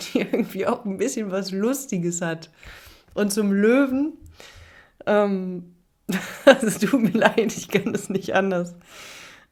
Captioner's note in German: gelächter